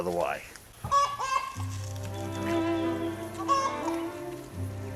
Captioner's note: chickens clucking; gentle classical music